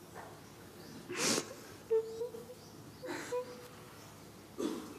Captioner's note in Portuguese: chorando